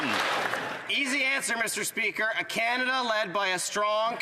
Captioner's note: some Applause